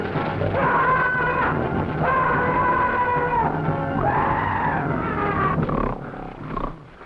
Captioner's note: tense music; Hurst screaming